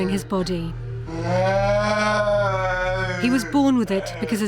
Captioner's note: moaning